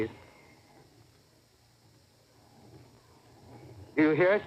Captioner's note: long pause